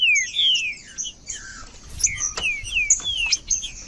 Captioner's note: trinca ferro cantando